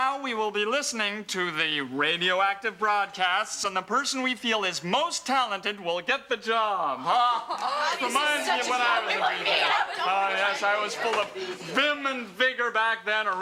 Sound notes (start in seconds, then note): 7.4 overlapping chatter